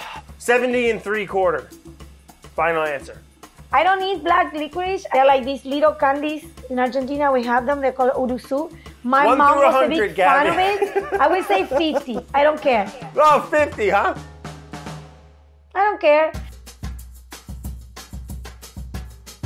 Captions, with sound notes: 70 and three quarter, final answer. - I don't eat black licorice. They're like these little candies in Argentina, we have them, they're called [speaking in a foreign language], my mom was a big fan of it. - One through 100, Gaby. - I will say 50, I don't care. - 50, huh? - I don't care. [jazzy music]